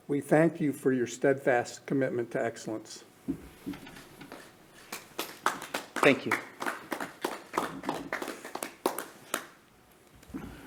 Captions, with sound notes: we thank you for your steadfast commitment to excellence. (clapping) - Thank you.